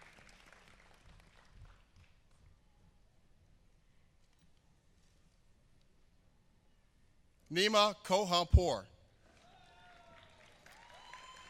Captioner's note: applause